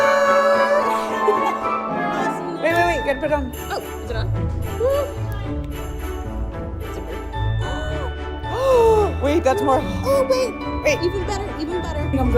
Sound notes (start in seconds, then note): 0.3 christmas music; 8.4 gasping